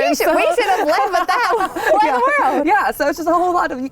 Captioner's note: laughter